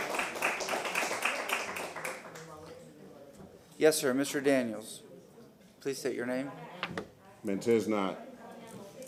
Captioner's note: applause